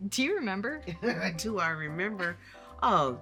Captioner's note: laughs